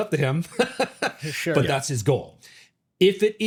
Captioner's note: laughs